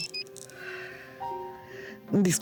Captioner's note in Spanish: Suena el celular